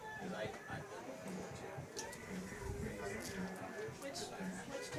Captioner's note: indistinct chatter